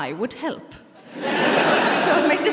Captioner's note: laughter